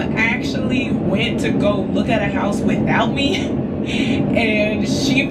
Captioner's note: laughs